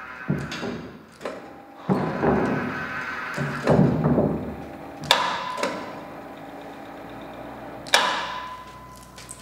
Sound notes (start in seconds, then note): 5.1 clacking